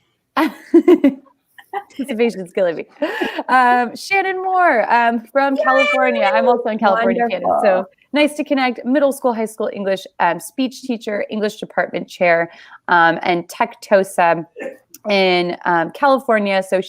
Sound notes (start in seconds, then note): 0.2 laughing; 5.6 cheering